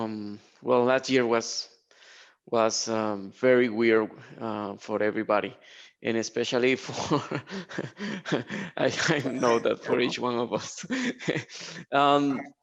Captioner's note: chuckling